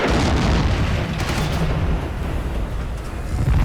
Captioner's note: gunshot